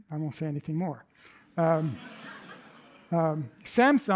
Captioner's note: laughter